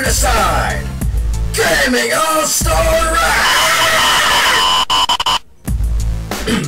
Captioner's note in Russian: статика